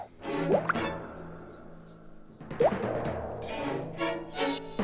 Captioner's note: drip